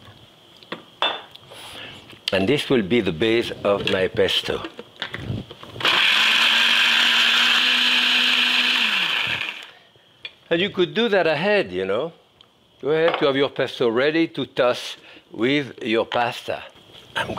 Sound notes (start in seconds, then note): 5.8 blender running